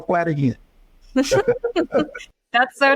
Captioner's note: laughing; laughs